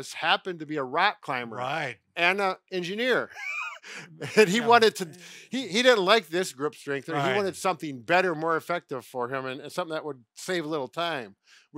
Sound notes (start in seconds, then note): 3.2 chuckles